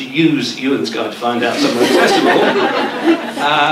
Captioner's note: laughter